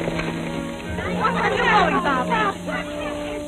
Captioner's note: townfolk chattering